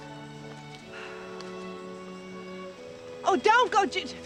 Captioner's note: Sarah sighs